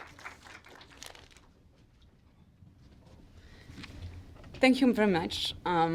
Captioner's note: clapping